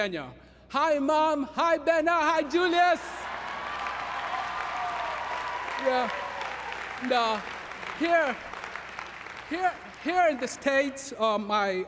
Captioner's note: applause